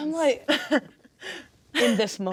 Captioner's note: laughing